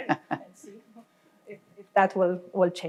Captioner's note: laughing